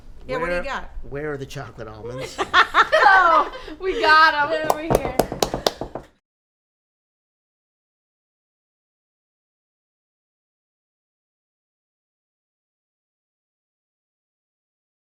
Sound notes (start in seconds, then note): 2.2 laughing